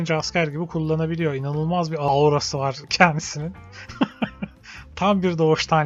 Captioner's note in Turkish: kahkaha